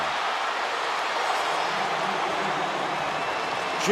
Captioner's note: cheering